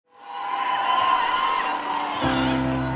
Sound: applause

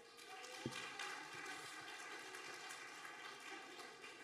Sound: audience applauding

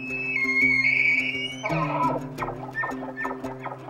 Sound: light guitar music; elk bugles

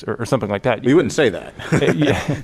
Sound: laughter

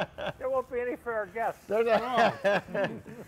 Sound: laughing

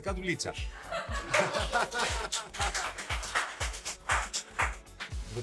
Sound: laughs

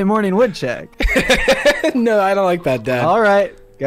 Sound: laughs

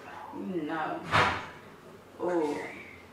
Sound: door slam

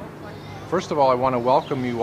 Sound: ambient sounds of the neighborhood

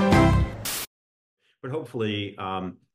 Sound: static crackling

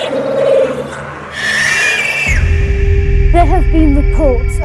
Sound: screaming

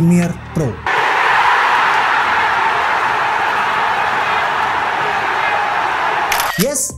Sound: crowd cheering

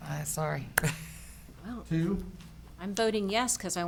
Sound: laughs

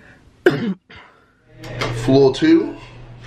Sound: coughing

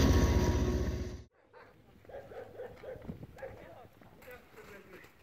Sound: dog barking

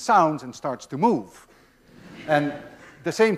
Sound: class laughs

